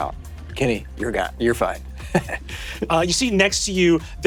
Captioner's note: chuckles